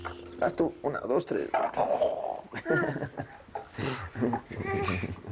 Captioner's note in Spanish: Risas